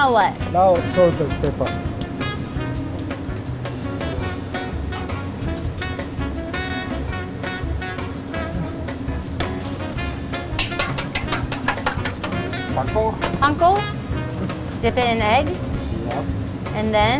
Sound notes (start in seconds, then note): 2.7 lively jazz; 10.0 metal banging; 10.5 egg cracking